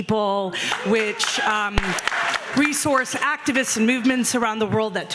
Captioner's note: audience clapping